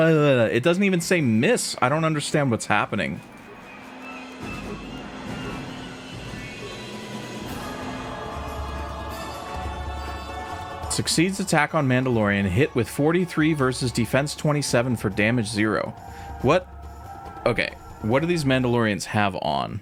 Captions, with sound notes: It doesn't even say miss. I don't understand what's happening. (keyboard clattering) Succeeds attack on Mandalorian, hit with 43 versus defense 27 for damage zero. What... Okay, what do these Mandalorians have on